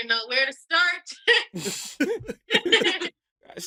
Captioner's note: all laugh